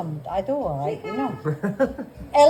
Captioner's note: chuckles